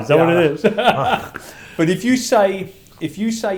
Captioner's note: laughs